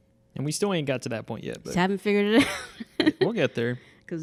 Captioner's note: laughing